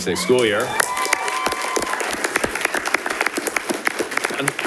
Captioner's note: audience applauding